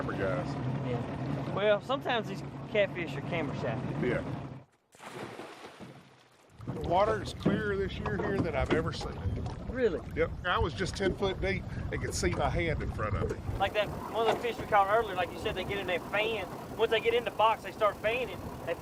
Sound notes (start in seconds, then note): 5.1 water splashes